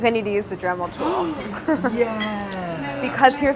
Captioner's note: gasps